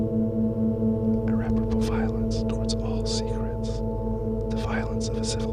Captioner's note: whispering